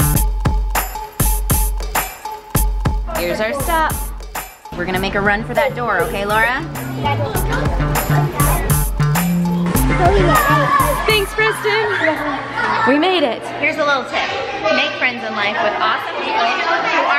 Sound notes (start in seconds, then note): 0.2 upbeat music; 12.3 kids chattering excitedly